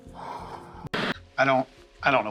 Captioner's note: exhales